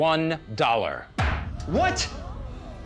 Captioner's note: bangs gavel